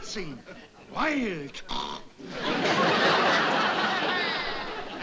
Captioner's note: snort